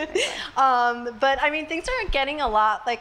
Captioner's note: laughs